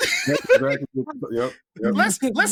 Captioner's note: laughter